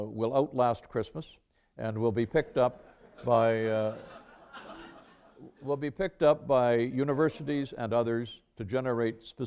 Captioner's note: laughter